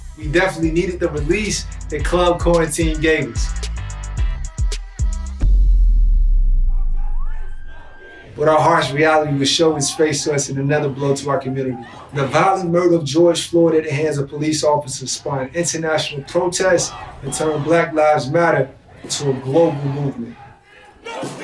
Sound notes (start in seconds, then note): 3.7 dance music playing; 5.6 dramatic sound plays